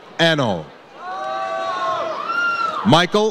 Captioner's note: audience cheers